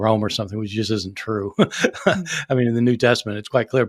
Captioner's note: chuckling